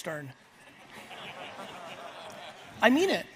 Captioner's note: audience laughs